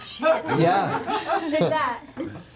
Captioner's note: laughter